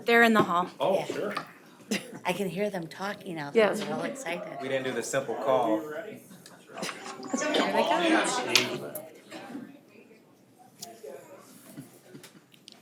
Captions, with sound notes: They're in the hall. - Oh sure. - I can hear them talking. They're real excited. - We didn't do the simple call. (group chattering)